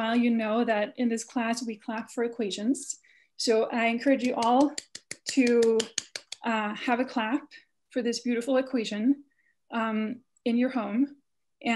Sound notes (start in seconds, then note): 4.2 clapping